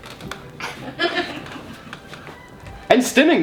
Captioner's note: classical music and chair squeaking continues; mom laughs